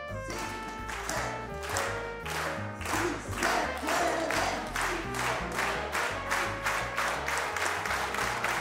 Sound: chanting "Sí se puede!"

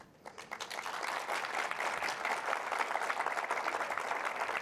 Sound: audience applause

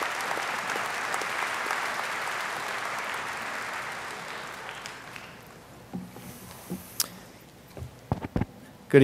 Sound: audience applauding

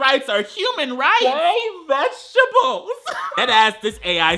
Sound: laughs

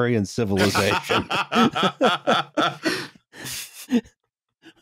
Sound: laughter

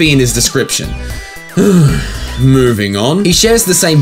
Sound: exhale

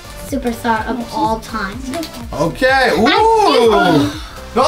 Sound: mumbles

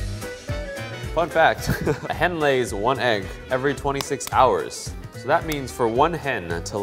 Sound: laughs

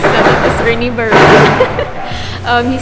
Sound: giggles

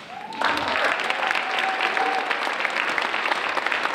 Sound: applause

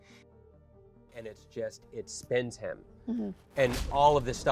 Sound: fist striking

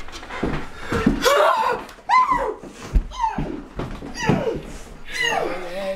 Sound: Elizabeth screams

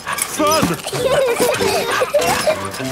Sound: peppa and george laughing; straining

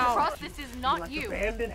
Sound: yelling/chaos

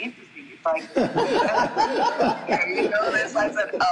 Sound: group laughing

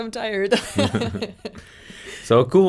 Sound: both laugh

